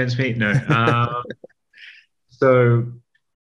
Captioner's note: laughing